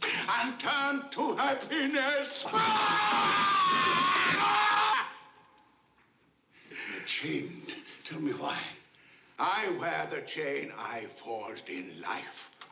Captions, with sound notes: And turn to happiness. [SCREAMS] You're chained. Tell me why. I wear the chain I forged in life.